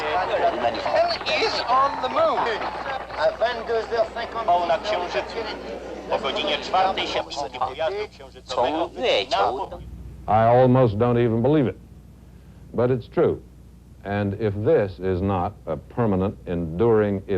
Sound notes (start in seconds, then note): 1.9 speaking french